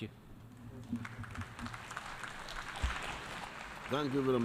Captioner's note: applause